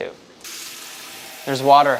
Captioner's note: water running